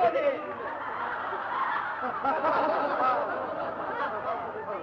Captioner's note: laughing